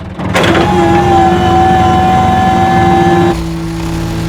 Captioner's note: whirring